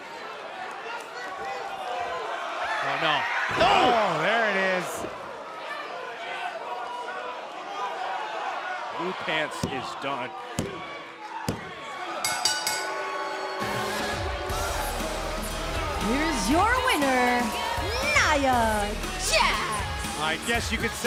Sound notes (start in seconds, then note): 6.4 crowd chatter; 12.2 bell ringing